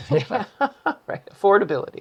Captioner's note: laughs